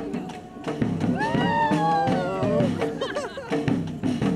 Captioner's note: percussive music; people cheering; percussive music